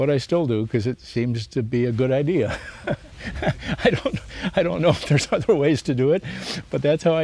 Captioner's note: laughs